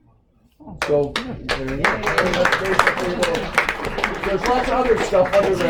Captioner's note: applause